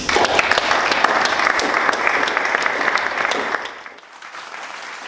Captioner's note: audience applauds